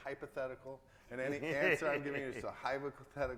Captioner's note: laughs